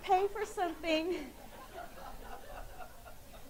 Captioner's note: laughing